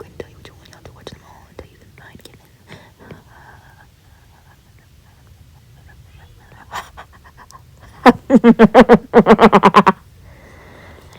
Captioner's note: maniacal laughter